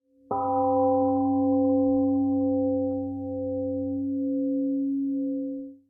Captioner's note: temple gong rings and fades 🎵